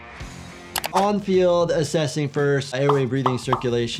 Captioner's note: keyboard clicking